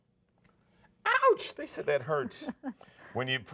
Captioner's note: laughing